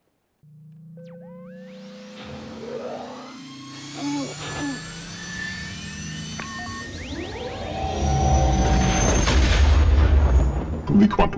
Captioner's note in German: Millennium Falcon Triebwerksgeräusche